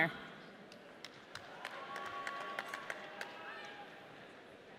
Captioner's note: audience cheering